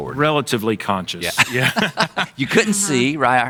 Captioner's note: laughing